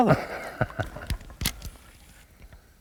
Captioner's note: laughter